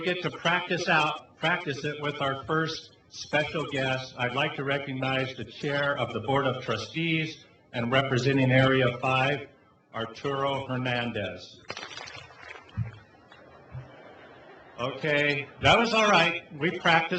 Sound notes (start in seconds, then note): 11.6 few claps; 13.2 laughing